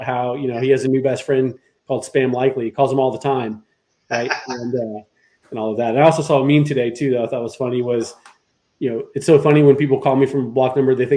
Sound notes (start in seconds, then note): 4.5 laughs